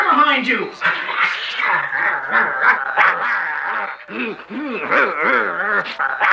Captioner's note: growling sounds